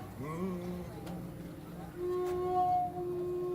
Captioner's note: man hums; flute music